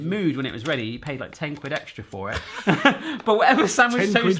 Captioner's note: laughs